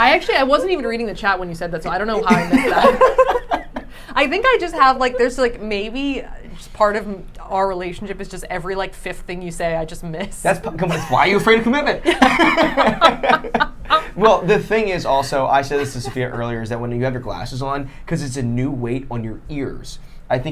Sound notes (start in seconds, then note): 1.9 laughing; 12.1 laughing